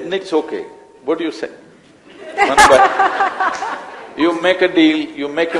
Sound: laughter

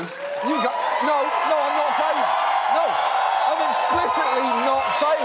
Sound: audience laughing, cheering

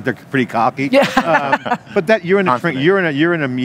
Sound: laughs

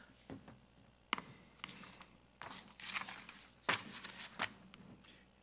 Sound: paper rustling

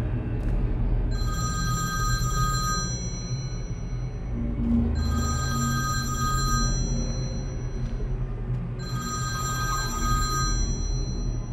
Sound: phone rings

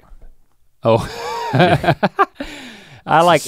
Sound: chuckles

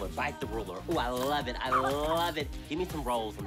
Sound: coughs

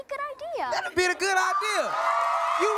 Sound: cheering, applause

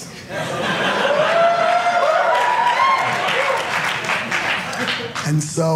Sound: audience cheering

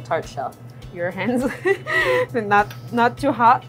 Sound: laughs

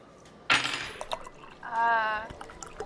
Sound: fork clattering

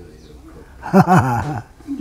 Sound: laughs

